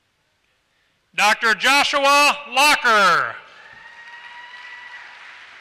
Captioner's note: applause